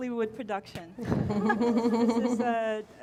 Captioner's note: all laughing